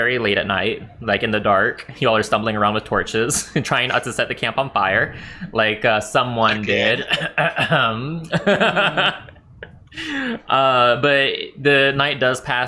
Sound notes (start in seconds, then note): 10.5 flick